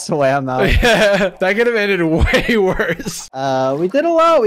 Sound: laughs

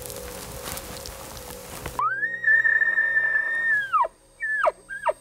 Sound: elk calling

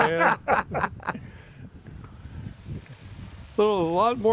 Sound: laughing

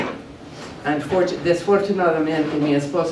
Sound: speaking spanish

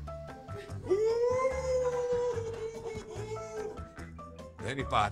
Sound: laughing

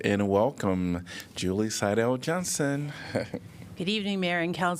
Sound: laughter

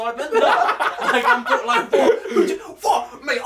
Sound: laughing

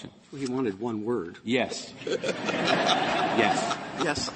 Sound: laughter

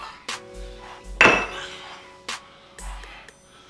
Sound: slams glass

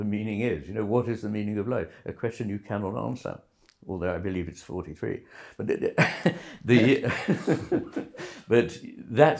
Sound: laughter

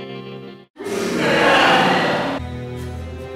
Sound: reversed music; distorted laughter

